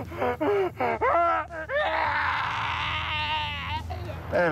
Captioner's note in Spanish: quejidos; gritos